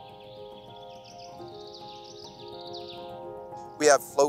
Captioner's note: birds chirping; gentle music